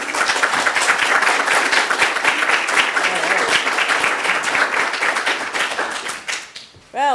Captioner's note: applause